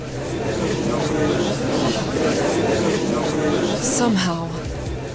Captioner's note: gallery chattering